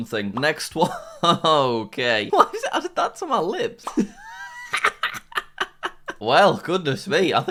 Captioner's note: laughs